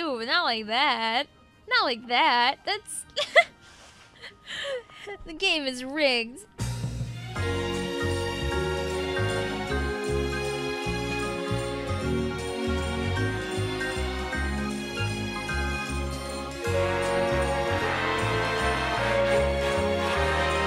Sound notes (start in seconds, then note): 3.1 laughs